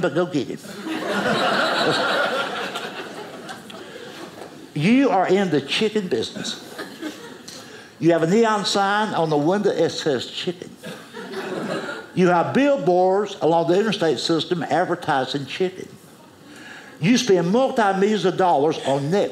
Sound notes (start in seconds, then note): 0.7 audience laughing; 10.8 audience laughing